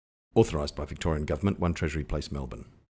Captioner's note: radio Announcer